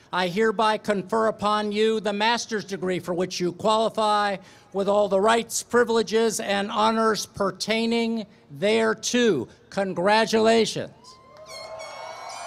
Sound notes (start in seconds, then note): 11.2 applause, cheering